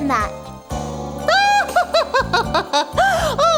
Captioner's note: laughing